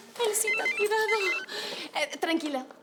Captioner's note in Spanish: Suena el teléfono